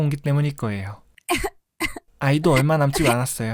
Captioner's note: coughing